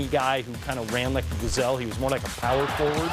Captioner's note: crowd roars